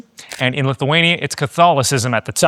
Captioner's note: camera clicking